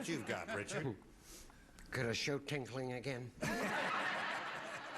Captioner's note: imitating paul lynde; laughter